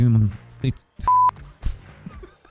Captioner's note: beep